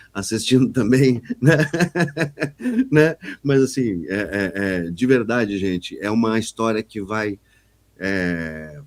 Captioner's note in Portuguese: risadas